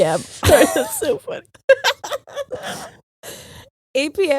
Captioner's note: both laughing